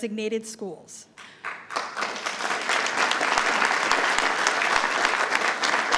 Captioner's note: attendees applauding